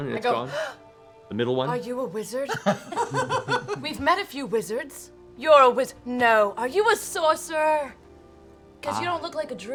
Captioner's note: gasps